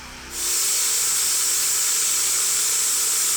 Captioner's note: saw whirls